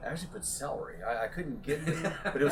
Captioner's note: laughter